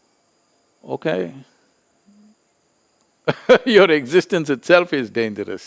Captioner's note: laughs